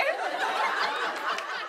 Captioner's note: laughter